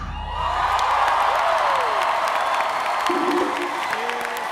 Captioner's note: applause